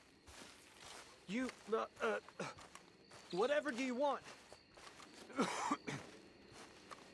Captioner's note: coughs